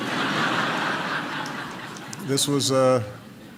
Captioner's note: laughter